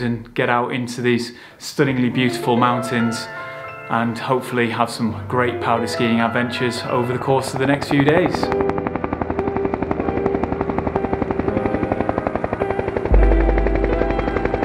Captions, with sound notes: and get out into these stunningly beautiful mountains and hopefully have some great powder skiing adventures over the course of the next few days. (helicopter whirring)